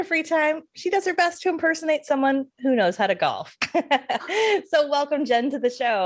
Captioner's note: laughs